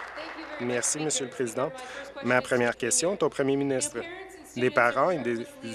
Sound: applause

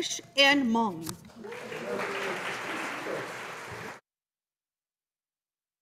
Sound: audience applauding

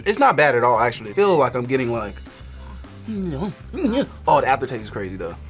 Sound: groans

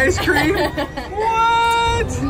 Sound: laughing

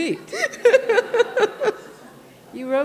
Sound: laughter

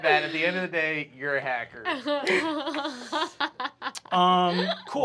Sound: laughing

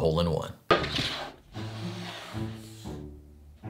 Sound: cutting board sliding

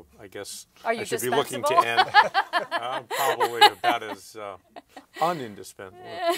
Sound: laughter

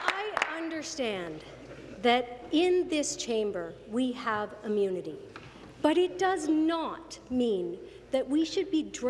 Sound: applause

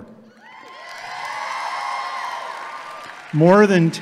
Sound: audience applauding

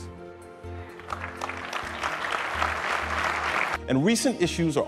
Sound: applause

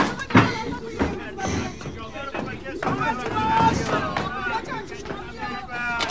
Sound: arguing sound

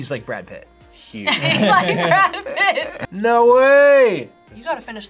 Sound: laughs

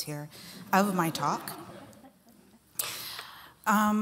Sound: laughter

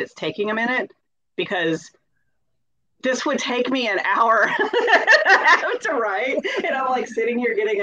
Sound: laughs

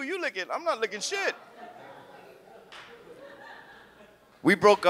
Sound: audience laughs

